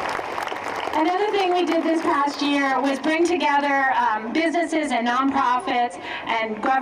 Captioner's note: applause